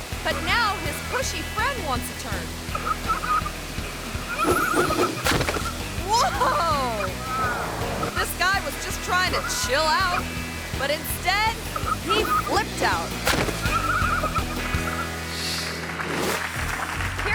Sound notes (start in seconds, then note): 2.8 person laughing; 3.8 air whooshing; 5.2 body slams; 12.0 people laughing; 13.2 body slams; 14.5 audience clapping; 15.3 air whooshes